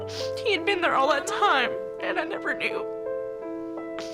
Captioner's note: sobs; somber piano